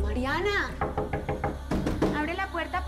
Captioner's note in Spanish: Toques en la puerta